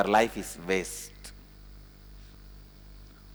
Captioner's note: hindi